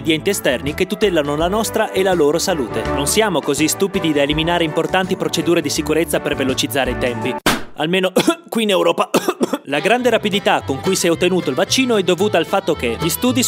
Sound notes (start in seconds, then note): 9.0 cough cough